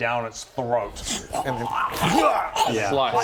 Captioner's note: hwarrgh